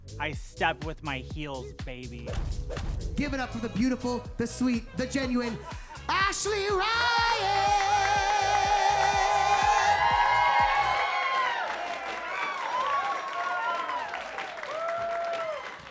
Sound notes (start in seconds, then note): 2.2 logo thudding; 9.3 audience cheering